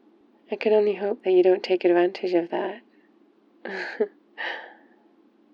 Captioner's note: laughs